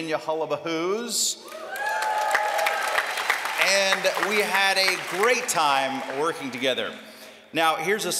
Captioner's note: applause